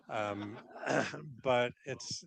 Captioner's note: audience laughing